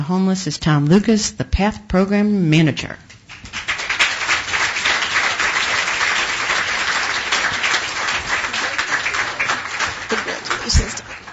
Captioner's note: applause